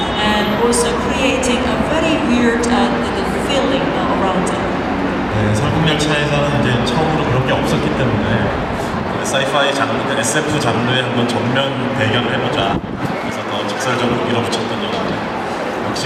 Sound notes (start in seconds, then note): 5.7 speaking Korean